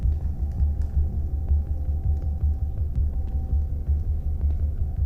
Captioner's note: fire crackling